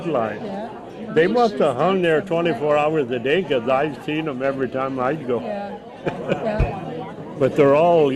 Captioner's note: laughs